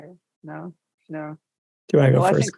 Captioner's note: laughs